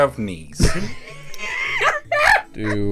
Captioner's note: laughing